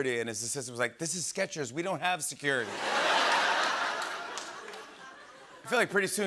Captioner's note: laughter